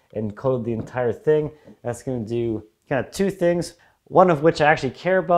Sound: none

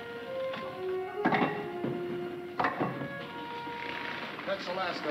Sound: metal clanking

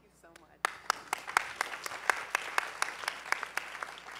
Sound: applause

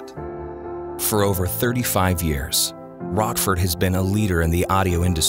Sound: voiceover

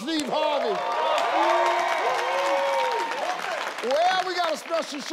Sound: audience cheering

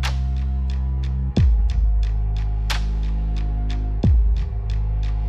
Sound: sweeping noises

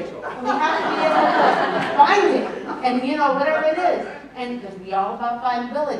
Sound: laughter

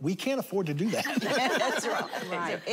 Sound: laughter

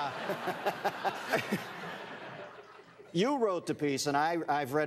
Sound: laughter

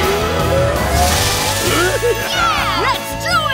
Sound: laughing

